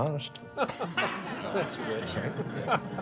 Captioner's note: faculty laughs